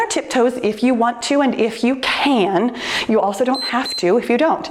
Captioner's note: timer beeps